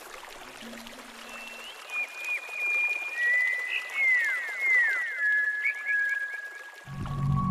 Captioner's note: flowing water; bird calls; gentle mystery music